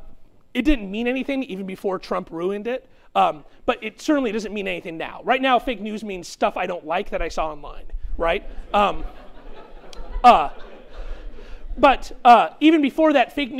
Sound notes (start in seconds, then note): 8.5 chuckling